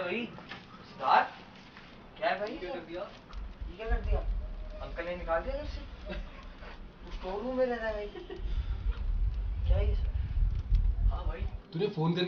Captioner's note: laughing